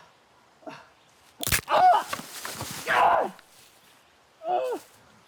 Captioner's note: bone snapping; Arawn groaning